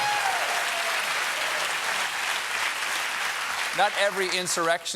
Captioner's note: applause